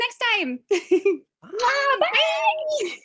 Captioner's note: laughter